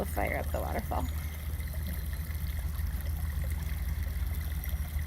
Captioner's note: water trickling